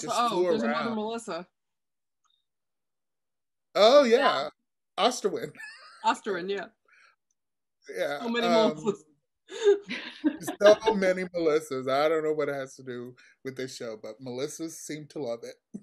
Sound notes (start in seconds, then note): 8.0 laughs